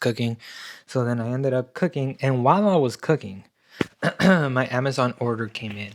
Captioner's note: clears throat